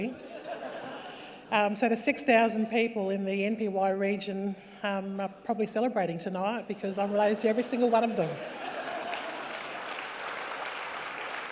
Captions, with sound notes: (LAUGHTER) ..so, the 6,000 people in the NPY region are probably celebrating tonight, because I'm related to every single one of them. (LAUGHTER, APPLAUSE)